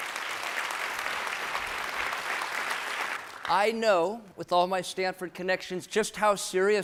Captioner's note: applause